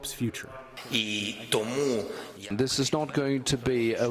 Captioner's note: through translator